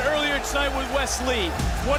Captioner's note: crowd cheers